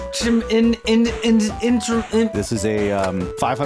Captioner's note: broken noises